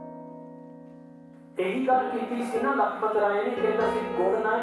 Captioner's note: man speaks in punjabi